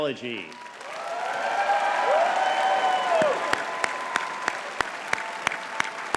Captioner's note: audience cheering and clapping